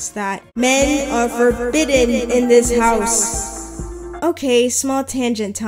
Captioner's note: echoing